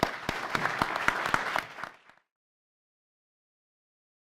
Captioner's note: audience applauding